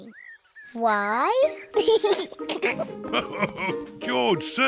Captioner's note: laughs; giggles